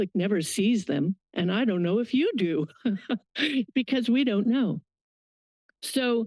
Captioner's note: laugh